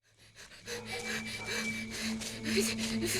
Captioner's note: panting